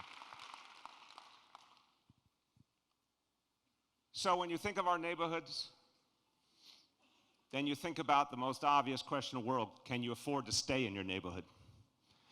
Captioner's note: applause